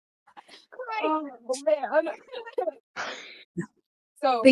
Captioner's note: more subdued laughter